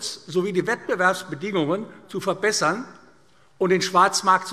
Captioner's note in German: none